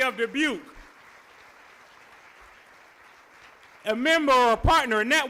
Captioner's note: applause